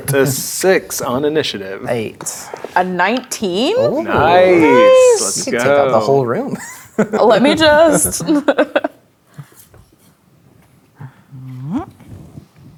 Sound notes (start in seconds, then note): 7.1 laughs